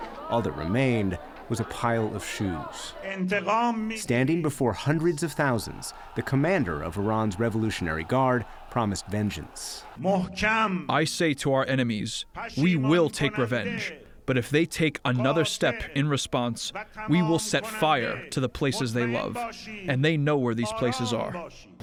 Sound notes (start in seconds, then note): 10.7 through translator